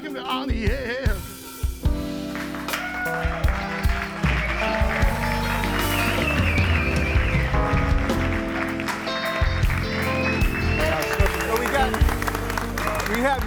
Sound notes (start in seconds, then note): 0.0 upbeat music; 2.5 audience applauds and cheers; 10.7 audience applauds and cheers